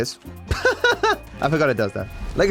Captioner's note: laughs